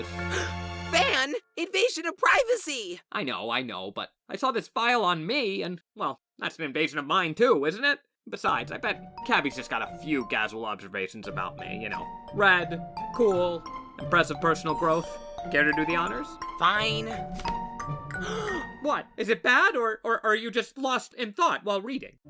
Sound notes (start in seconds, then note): 0.2 gasp; 18.1 gasps